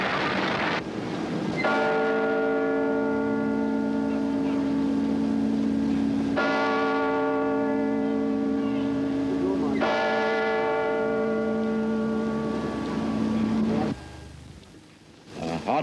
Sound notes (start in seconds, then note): 1.7 bell tolls